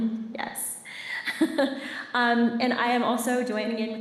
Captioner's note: laughs